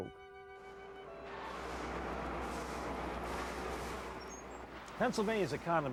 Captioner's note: forklift buzzing